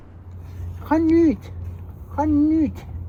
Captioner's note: in Swiss German